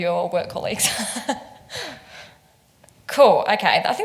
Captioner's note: laughs